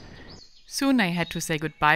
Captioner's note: birds tweeting